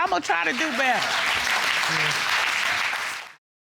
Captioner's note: audience applauding